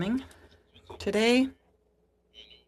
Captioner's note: speaking in french